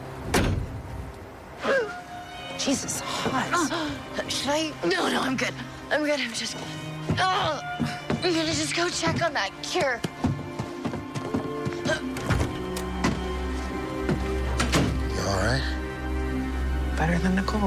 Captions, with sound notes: (gagging) - Jesus, Haught, should I-- - No, no, I'm good. I'm good, I just... (pained groaning) I'm gonna just go check on that cure. (door closing) - Are you alright? - Better than Nicole.